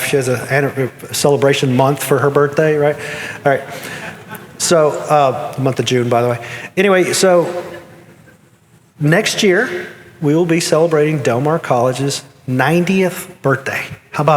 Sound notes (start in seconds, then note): 4.0 audience chuckling